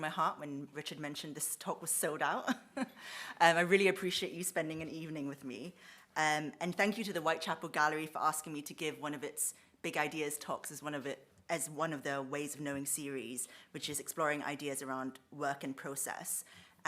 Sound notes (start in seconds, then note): 2.4 she chuckles